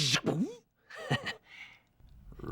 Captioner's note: chuckles